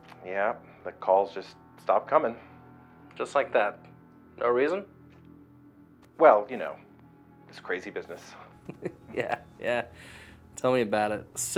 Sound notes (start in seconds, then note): 8.6 laughs